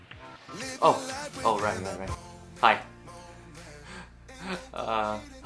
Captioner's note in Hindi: हंसते हुए